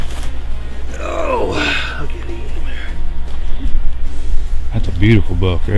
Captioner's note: grunts